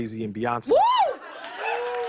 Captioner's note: cheers and applause